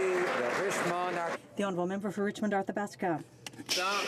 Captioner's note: some Applause